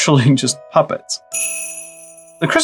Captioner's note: sleigh bells